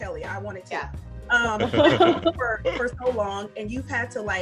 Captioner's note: laughing